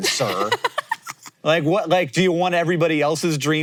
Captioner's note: Maya laughs